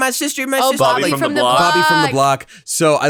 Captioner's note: saying simultaneously